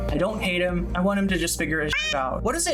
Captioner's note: meow